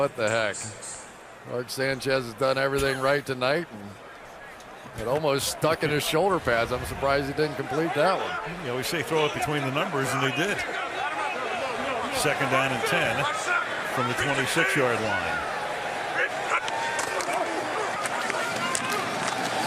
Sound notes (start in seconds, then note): 11.7 chatter